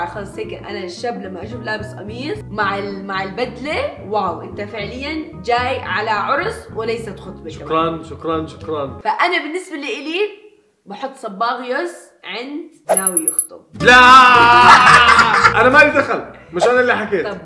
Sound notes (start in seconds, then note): 13.8 shouts; 14.3 laughs